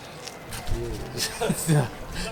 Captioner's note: laughs